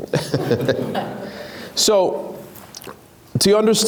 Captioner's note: laughs